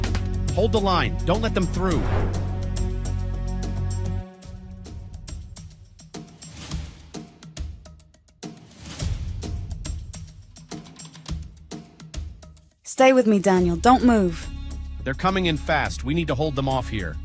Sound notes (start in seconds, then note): 1.1 suspenseful music continues; 1.4 transition whooshing